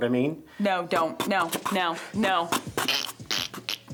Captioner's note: beat boxing; throat clicking; upbeat music